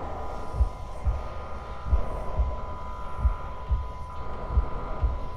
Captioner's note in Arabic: صوت إنذار خافت